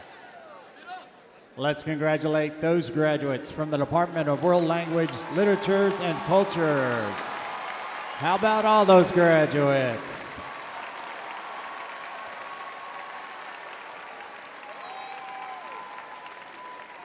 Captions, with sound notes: - Let's congratulate those graduates from the Department of World Languages, Literatures and Cultures. (audience cheering) How about all those graduates? (audience applauding)